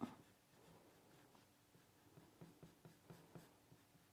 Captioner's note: pencil scraping